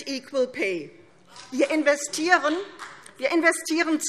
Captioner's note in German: Vereinzelter Beifall CDU